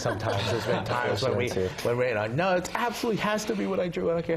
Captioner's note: laugh